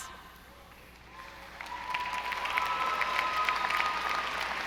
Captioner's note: audience applauding